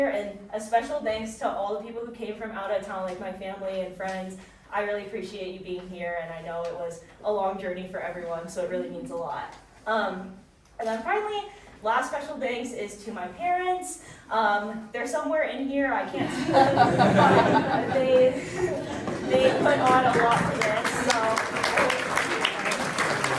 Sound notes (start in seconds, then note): 16.2 chuckles; 16.4 audience chuckling; 18.1 audience applauding